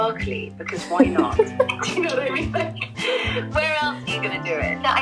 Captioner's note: laughs